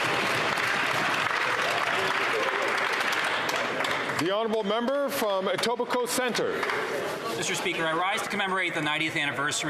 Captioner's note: some Applause